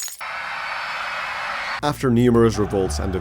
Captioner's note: screams